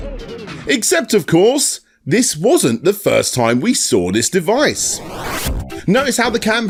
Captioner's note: record skip